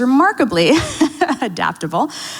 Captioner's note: laughs